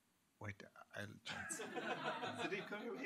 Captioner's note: laughter